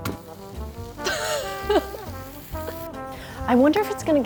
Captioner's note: laughs